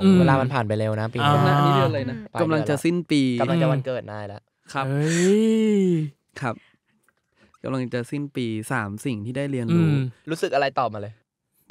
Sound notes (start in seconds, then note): 5.4 laugh